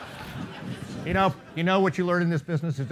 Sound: laughing

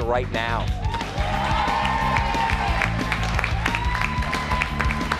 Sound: cheers and applause

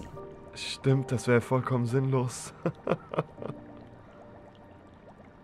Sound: laugh

